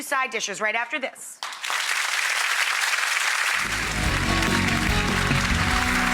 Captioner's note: audience applauds